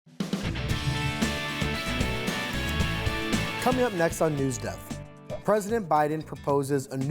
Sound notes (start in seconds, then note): 0.4 upbeat music; 2.6 cursor clicks